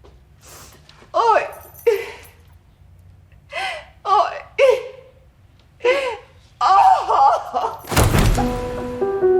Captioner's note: crying